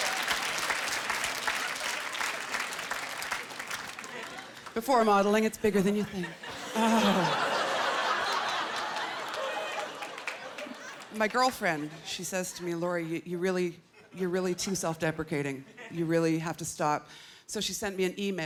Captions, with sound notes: "Before" modelling. It's bigger than you think. (Laughter) My girlfriend, she says to me, "Lori, you're really too self-deprecating. "You really have to stop." So she sent me an e-mail.